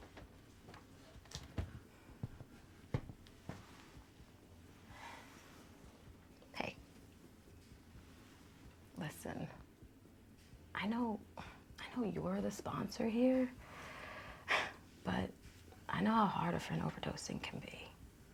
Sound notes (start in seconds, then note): none